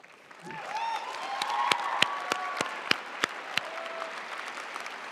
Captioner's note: audience cheering and applauding